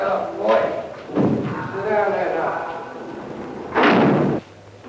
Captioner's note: thud; cell door closing